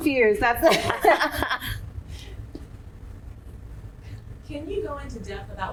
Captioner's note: laughing